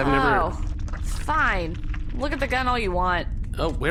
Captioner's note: squelching sounds